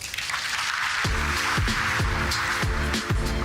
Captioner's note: audience applauding